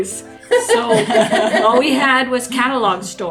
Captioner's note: women laughing